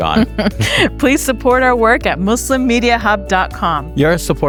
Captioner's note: chuckles